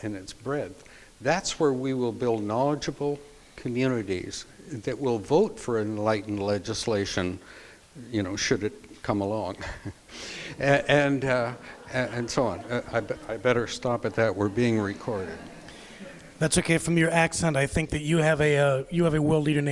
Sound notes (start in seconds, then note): 10.5 crowd laughs